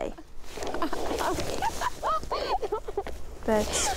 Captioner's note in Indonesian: tertawa